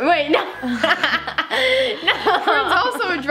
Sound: laughing together

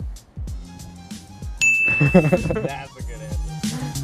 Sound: bell dings

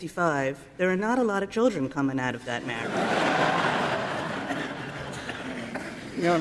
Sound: laughter

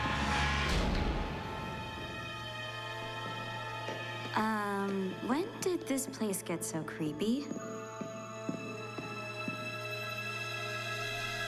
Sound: door smsla

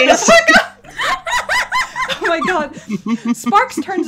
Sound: laughter

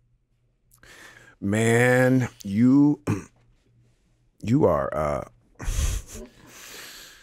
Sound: chuckling

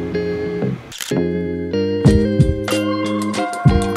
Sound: camera shutter clicks

